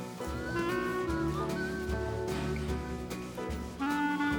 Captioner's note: Rene whistles